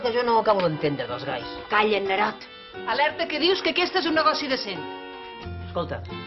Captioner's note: whispers